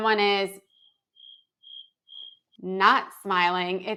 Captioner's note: crickets chirping